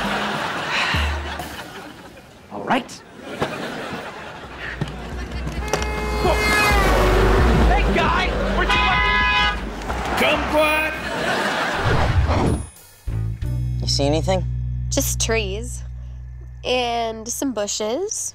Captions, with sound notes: [sighing] All right. [honking] Whoa! Hey, guy! Why don't you watch- [honking] Kumquat! You see anything? Just trees... and some bushes